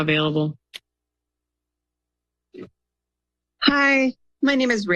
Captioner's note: silence